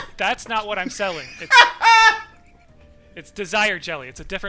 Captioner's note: laughter